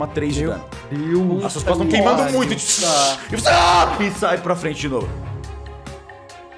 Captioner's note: shout